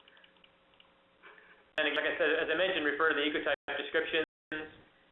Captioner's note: mouse clicking